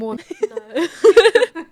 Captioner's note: laughing